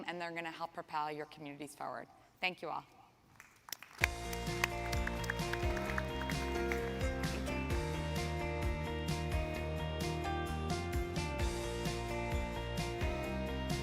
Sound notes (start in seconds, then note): 3.3 audience clapping; 4.0 upbeat music